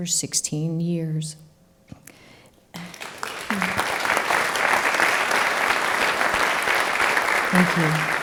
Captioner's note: applause